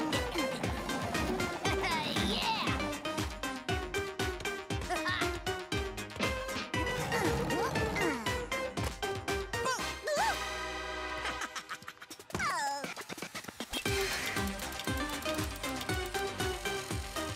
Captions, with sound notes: Haha, yeah! - Haha! (grunting) - Boo! - Ooh! (laughing) Oh! (spooky upbeat music)